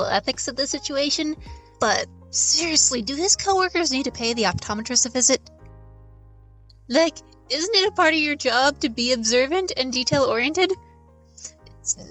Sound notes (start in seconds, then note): none